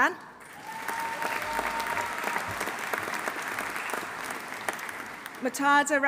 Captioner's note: audience applauding; audience cheering